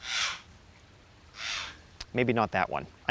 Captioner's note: bird chirping